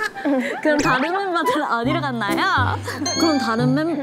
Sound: summoning the Seoul accent

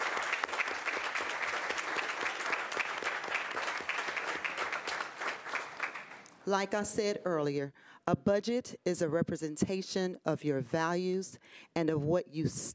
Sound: applause

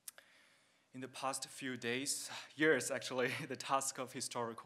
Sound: chuckles

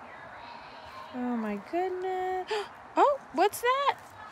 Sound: gasps

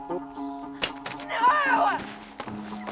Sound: computer dropping

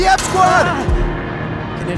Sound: screams

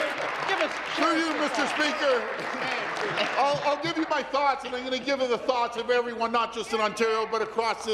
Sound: applause

